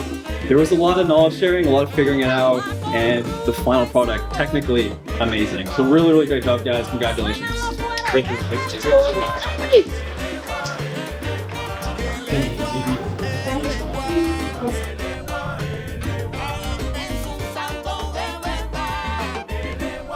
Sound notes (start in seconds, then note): 7.9 applause